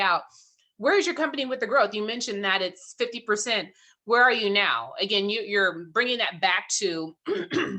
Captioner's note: clearing throat